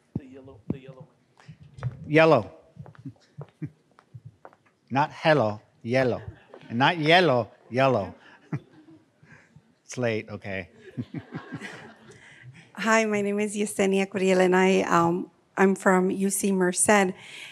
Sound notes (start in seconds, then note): 3.4 chuckles; 5.9 laughing; 8.9 chuckles; 10.0 laughing